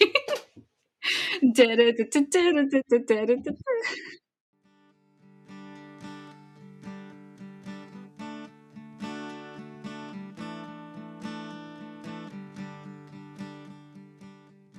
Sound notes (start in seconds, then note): 3.7 laughing